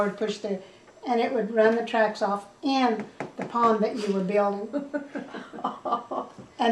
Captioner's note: laughter